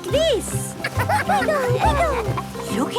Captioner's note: laughter